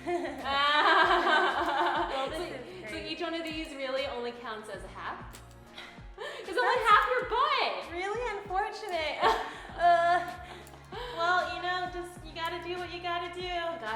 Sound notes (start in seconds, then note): 0.0 laughing; 9.9 groaning